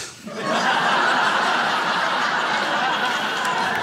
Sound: crowd laughs

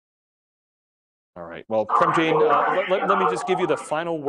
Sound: murmurs

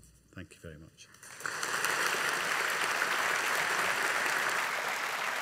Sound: audience applauding

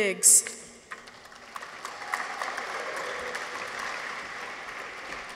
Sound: audience applauds

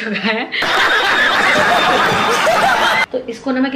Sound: laughing

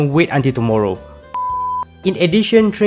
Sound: beep

